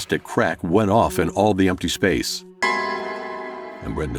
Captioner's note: JUMP SCARE: ani yüksek hit sesi